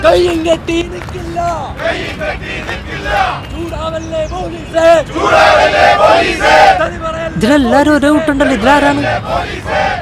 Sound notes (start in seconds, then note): 4.9 protesters Sloganeering